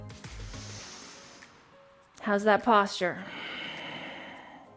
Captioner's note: inhales